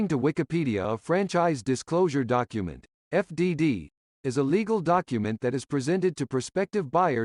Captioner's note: humanoid voice